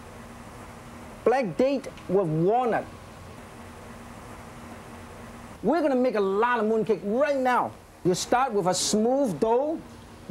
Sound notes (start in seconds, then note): none